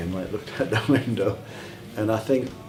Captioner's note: laughing